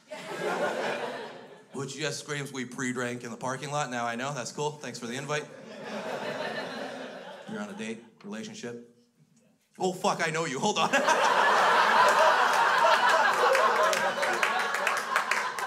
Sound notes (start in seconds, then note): 0.0 crowd laughs; 5.5 crowd laughs; 10.6 crowd laughs; 10.7 laughs